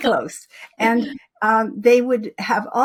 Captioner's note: laughing